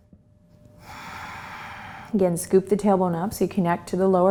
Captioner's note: exhales